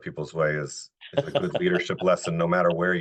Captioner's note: laughing